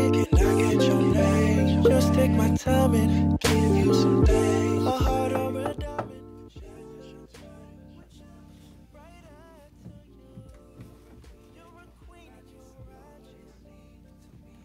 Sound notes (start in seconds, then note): 5.6 knock; 6.0 music fades